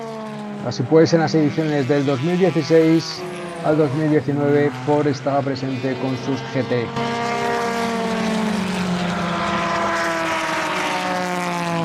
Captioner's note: engines